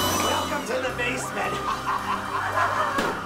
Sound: laughs

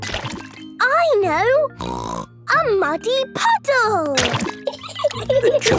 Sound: laughing

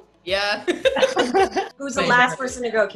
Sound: ladies laugh

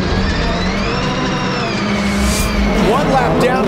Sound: car engine revving

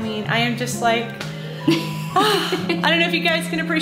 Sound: sighs

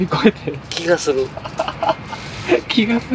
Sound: laughter

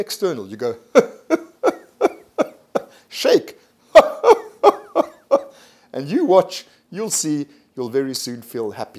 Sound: laughs

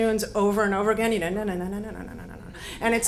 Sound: hums

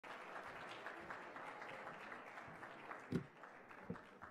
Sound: applause

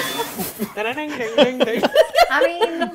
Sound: laughing; imitating banjos

